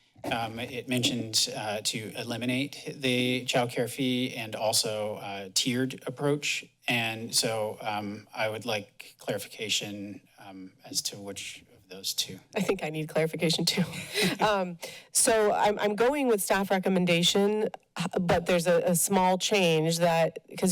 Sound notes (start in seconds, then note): 13.7 laughter